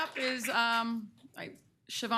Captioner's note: applause